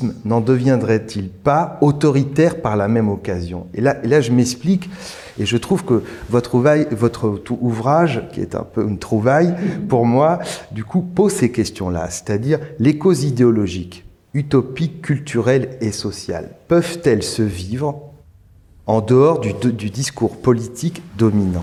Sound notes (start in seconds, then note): 5.0 slip